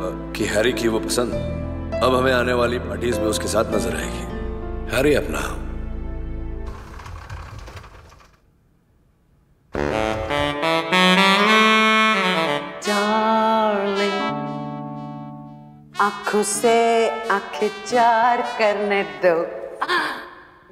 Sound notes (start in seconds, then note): 6.7 door opens; 19.3 gasps